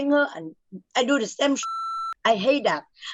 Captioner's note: beep